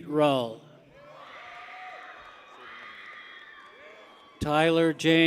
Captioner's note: people cheer